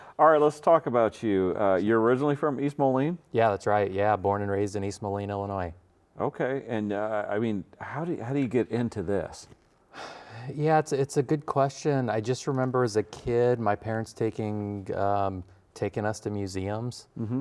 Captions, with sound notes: - All right, let's talk about you. You're originally from East Moline? - Yeah, that's right, yeah, born and raised in East Moline, Illinois. - Okay, and I mean, how do you get into this? - (sighs) Yeah, it's a good question. I just remember as a kid my parents taking us to museums,